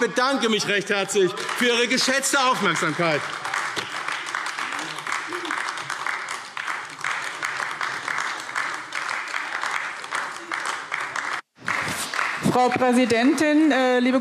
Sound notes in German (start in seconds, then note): 3.4 Beifall AfD - Zurufe DIE LINKE